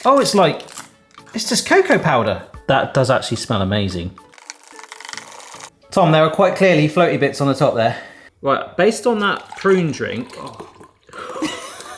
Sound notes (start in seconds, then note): 4.2 spoon whirring